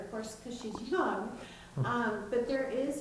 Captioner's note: chuckling